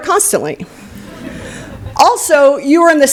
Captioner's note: laughter